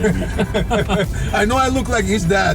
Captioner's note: laugh